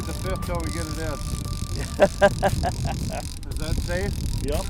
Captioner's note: laughs